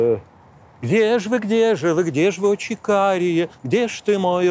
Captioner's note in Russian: напевает